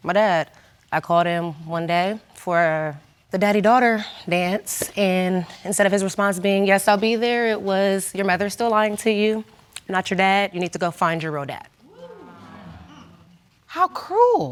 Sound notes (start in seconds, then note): 11.9 audience gasps